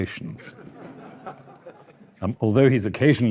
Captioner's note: audience laughing